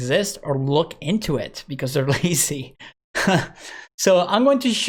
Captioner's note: chuckles